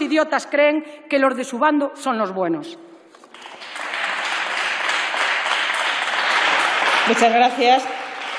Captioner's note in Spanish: Aplausos